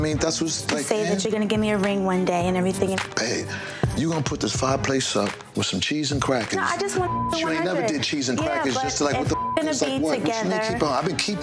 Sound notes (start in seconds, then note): 6.9 beep